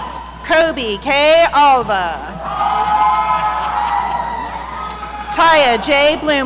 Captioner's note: audience cheering; audience cheering